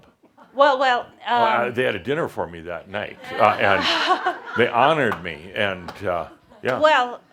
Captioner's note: some chuckles